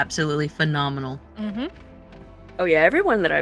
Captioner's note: agreeing hm hm